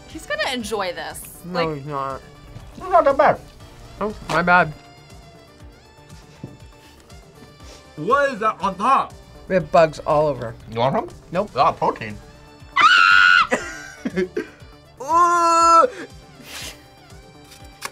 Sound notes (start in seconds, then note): 12.7 screams; 13.4 laughs